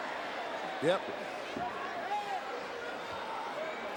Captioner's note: crowd murmuring